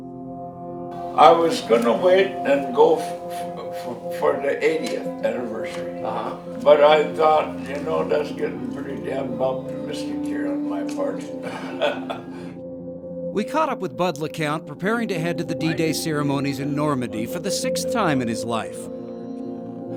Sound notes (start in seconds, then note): 16.9 laughs